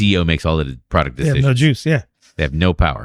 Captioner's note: uh